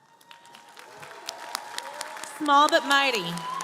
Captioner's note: audience cheering & applauding